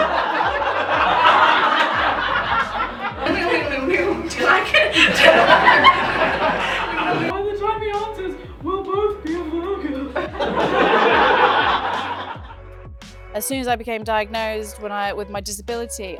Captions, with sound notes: [audience laughter] Do you like it? [audience laughter] By the time he answers, we'll both be a Virgo. [audience laughter] As soon as I became diagnosed, when I with my disability,